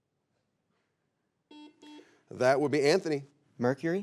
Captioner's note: buzzer beeps